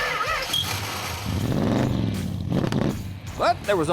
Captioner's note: engine starting and revving